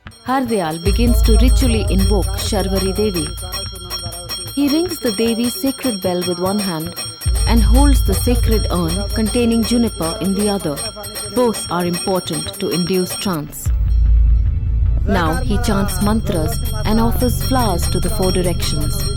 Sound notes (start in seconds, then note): 2.6 bell jingling; 13.6 mysterious music